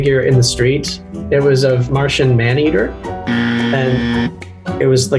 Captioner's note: loud buzzing